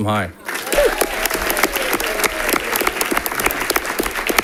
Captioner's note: audience applauding